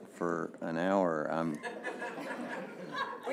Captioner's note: laughter